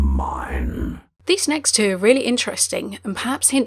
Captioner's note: voiceover